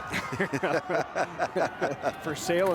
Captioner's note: both laugh